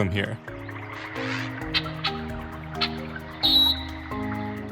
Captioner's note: chirping